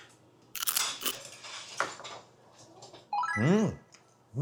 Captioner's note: Munch